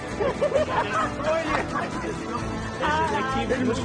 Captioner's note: laughing hard